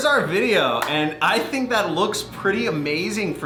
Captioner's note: clapping